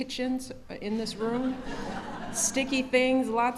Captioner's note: laughter